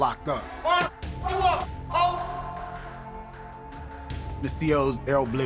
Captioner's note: yelling